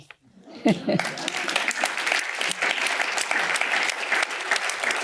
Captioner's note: applause